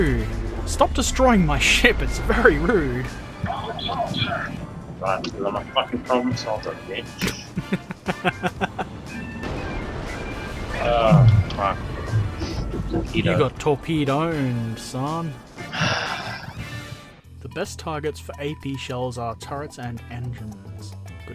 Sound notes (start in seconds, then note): 7.2 laughter; 15.7 sigh